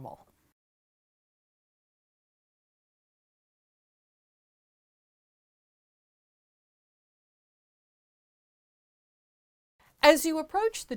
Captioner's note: no Sound Present